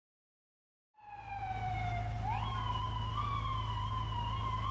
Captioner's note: siren wailing